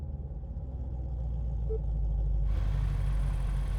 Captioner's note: engine rumbling